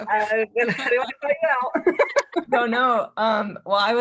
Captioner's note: laughs